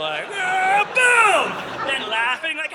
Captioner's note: audience laughing